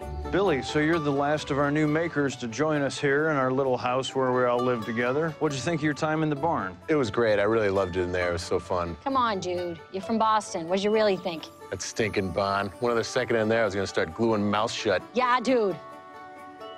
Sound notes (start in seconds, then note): 11.6 thick Boston accent